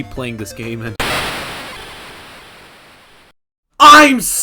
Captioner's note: 8-bit crashing sound effect